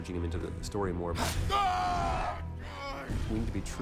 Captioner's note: screaming